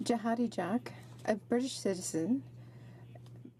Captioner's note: speaking French